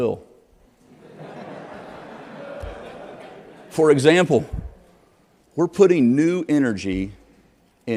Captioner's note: laughter